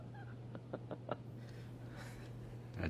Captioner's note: laughs